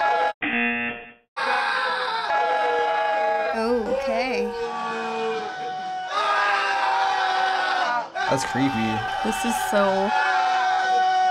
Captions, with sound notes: (buzzer) (screaming continues) - Okay. (screaming continues) - That's creepy. - This is so difficult.